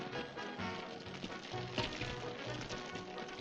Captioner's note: fire crackling